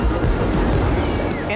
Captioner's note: fireworks booming